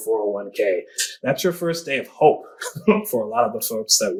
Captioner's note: laughs